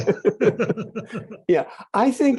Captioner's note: both laughing